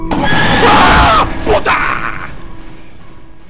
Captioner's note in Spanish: Grito; grita